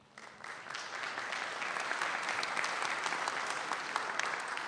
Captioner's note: audience applauding